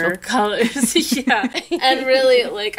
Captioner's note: laughing